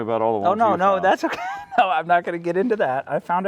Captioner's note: laughing